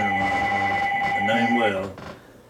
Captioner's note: phone ringing